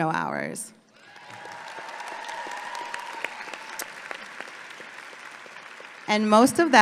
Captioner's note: audience applauding and cheering